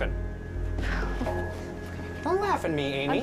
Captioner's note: chuckles